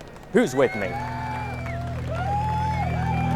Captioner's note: cheers